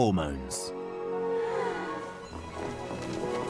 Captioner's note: sighing